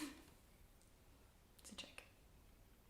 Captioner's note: quietly